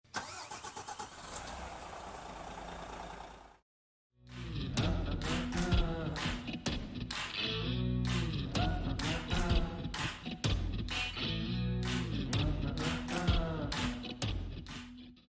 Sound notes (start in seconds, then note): 0.0 engine starts; 4.3 upbeat music